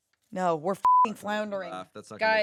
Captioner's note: beep